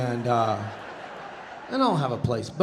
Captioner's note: audience laughing